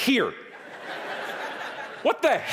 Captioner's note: audience laughing